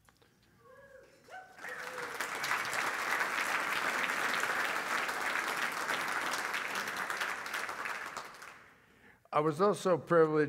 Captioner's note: applause